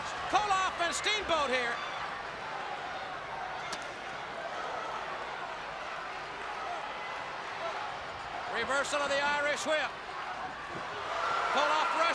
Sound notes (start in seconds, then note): 2.4 crowd chatter